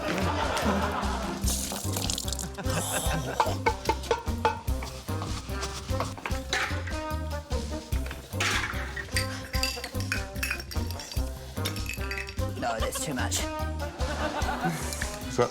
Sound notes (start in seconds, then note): 0.0 laughter; 2.7 pot clangs; 2.7 scoffs; 6.5 shot glasses clatter; 11.1 glasses rattle; 13.8 laughter